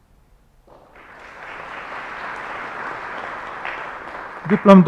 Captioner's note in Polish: oklaski